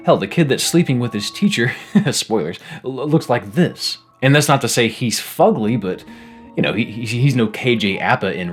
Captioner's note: laughing